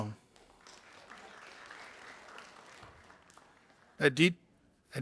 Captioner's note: audience applauding